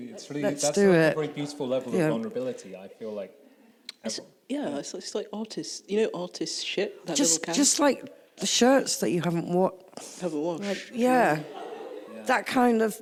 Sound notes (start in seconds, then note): 11.2 sniffs